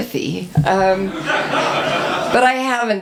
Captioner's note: audience laughs